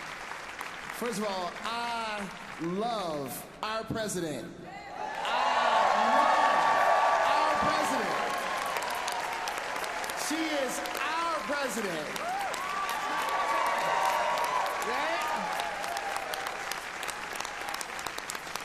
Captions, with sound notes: AT HOW WE USE SIDE WITH LOVE IN OUR JUSTICE MINISTRIES AT THE UUA TO HELP US ALL UU THE VOTE. AND EVERETTE IS GOING TO TALK TO US ABOUT SIDE WITH LOVE. [APPLAUSE] >> FIRST OF ALL, I LOVE OUR PRESIDENT. I LOVE OUR PRESIDENT . [APPLAUSE] SHE IS OUR PRESIDENT.